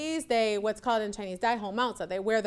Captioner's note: speaks Chinese